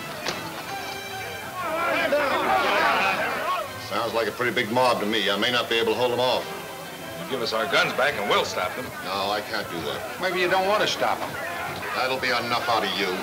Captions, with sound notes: (men yelling simultaneously) - Sounds like a pretty big mob to me. I may not be able to hold 'em off. - Give us our guns back and we'll stop them. - No, I can't do that. - Maybe you don't want to stop 'em. - That'll be enough out of you.